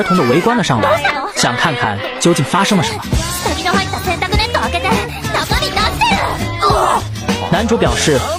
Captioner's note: screams of shock